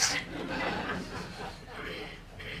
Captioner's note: laughing